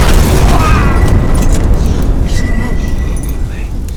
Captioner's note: explosion; agonizing moan